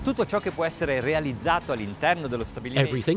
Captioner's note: upbeat music; speaking in foreign language